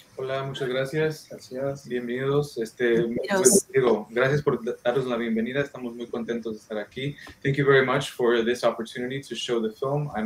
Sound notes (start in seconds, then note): 0.1 speaking in foreign language